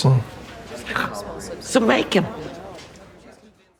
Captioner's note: scoffs